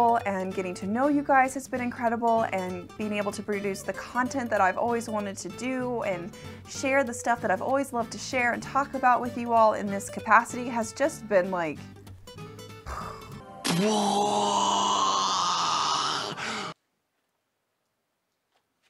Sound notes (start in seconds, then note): 12.8 imitating an explosion; 13.6 man imitating explosion